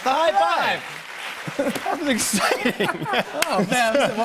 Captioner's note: laughter